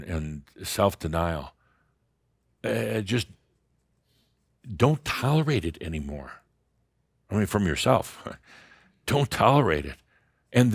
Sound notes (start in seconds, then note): none